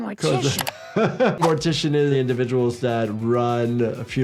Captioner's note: laughing